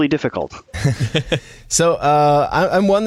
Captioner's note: laughter